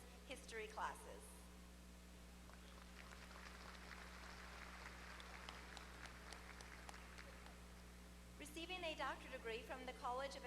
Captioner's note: applause